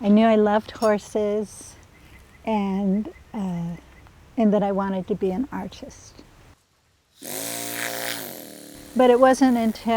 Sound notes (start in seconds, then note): 7.2 turns on air hammer